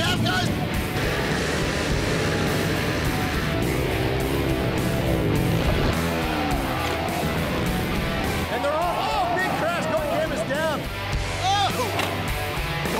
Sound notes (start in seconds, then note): 0.1 energetic country music; 0.6 motorbike sounds